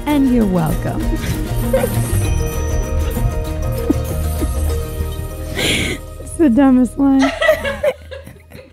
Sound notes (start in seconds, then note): 1.7 upbeat music; 7.2 laughing